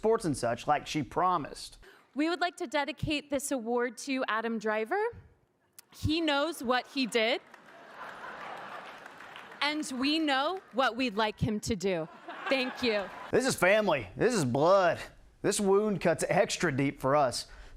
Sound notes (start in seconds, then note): 12.0 crowd laughing